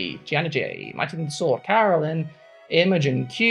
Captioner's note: speaking in German